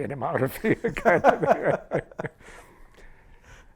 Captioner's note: laughter